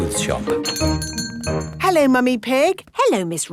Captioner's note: doorbell chiming